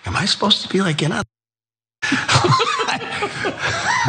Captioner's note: laugh